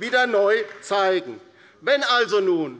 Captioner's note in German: Beifall bei der LINKEN